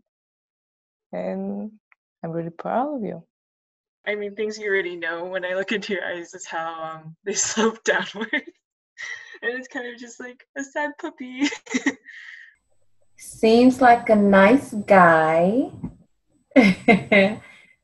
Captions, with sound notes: and I'm really proud of you. - I mean, things you already know, when I look into your eyes is how they slope downwards. (laughs) And it's kinda just like a sad puppy. (laughs) - Seems like a nice guy. (chuckles)